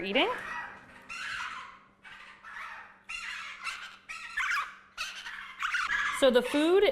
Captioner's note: birds squawking